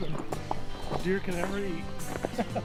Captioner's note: laughing